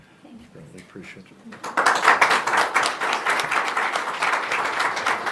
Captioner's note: applause